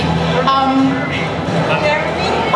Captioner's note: voiceover